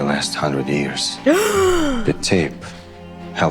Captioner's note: Emma gasps